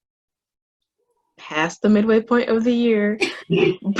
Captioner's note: both Laughing